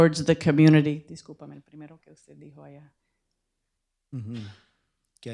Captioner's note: speaking spanish